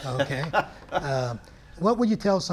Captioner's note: chuckles